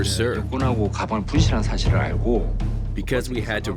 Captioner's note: speaking foreign language